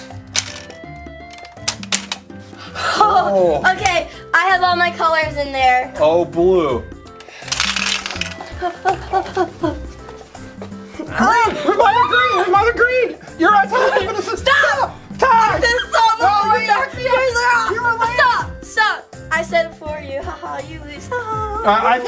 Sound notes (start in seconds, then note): 7.2 balls clanking